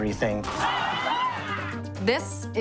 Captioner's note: yelling